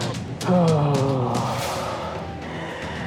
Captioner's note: groans